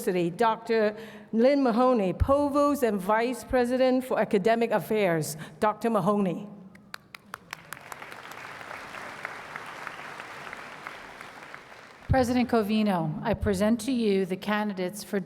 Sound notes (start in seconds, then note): 6.8 applause